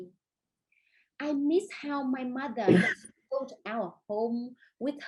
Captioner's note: coughing drowns out speaker